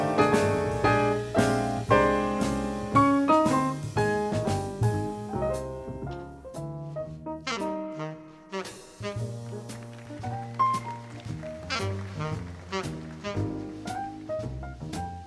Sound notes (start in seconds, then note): 8.2 upbeat jazz music continues; 10.9 audience applauds